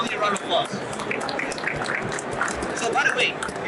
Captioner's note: crowd applauds